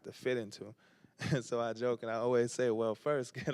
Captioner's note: chuckles